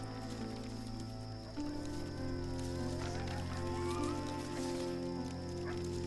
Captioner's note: jackals howling